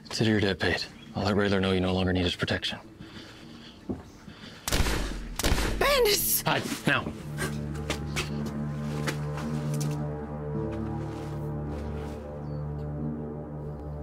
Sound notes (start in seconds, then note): 4.6 gunshots blasting; 9.1 suspenseful music